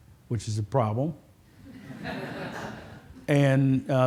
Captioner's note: laughter